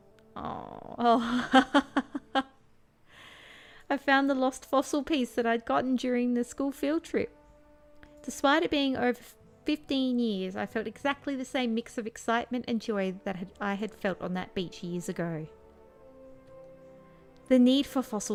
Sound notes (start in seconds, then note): 1.1 laughing; 3.8 reading text out loud